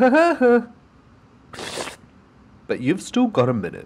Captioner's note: sarcastic Laugh; slurp